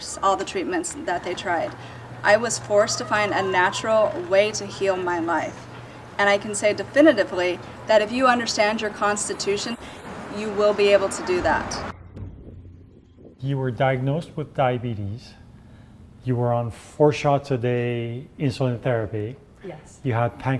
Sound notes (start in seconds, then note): 11.3 tense drumming music; 11.9 cold wind blowing